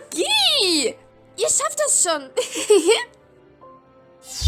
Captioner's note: laugh